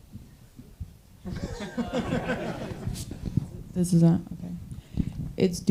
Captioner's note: audience laughing